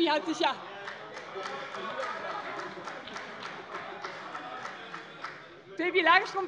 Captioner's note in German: Heiterkeit bei dem BÜNDNIS 90/DIE GRÜNEN - Demonstrativer Beifall bei der FDP